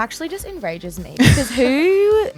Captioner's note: laughs